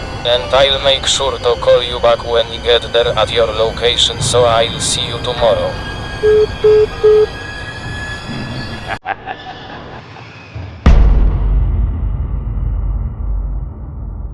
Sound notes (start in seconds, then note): 6.2 phone Hanging up; 8.7 Medic's Evil laugh